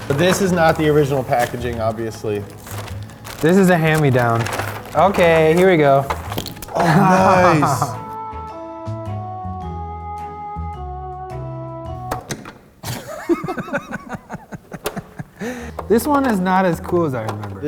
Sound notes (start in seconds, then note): 6.7 laughing; 8.2 whimsical music; 12.3 toy clicking; 12.8 laughing